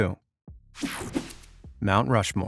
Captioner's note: image whipping effect